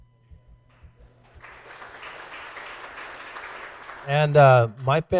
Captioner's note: applause